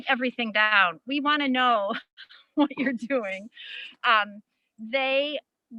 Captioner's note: laughs